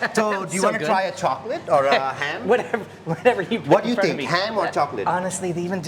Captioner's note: laughing